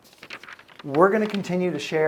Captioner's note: paper rustling